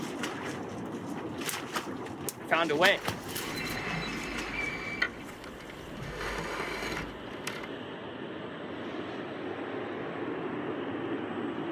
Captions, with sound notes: I found a way. (canoe being dragged through reeds)